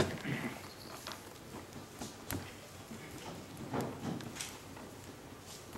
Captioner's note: percussion on gluteal region